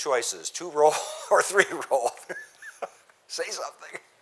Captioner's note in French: rires